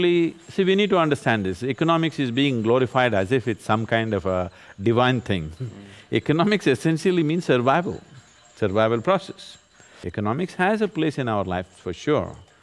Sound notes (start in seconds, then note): 5.5 laughs